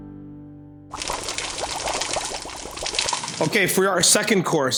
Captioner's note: water boiling; cooking oil sizzling